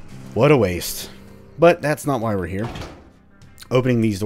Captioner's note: door opens